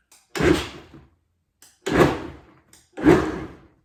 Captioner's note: blender churns